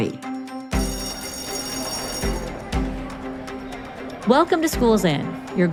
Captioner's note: school bell ringing